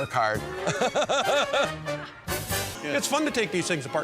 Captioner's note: laughs